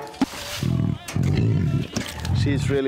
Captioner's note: tiger growls